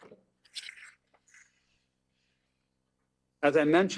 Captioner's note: paper rustles